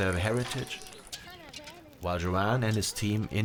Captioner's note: fire crackling